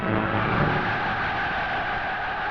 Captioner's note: cheering